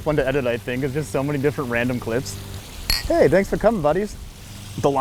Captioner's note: glasses clink